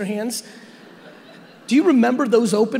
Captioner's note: audience laughing